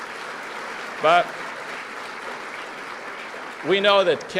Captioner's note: applause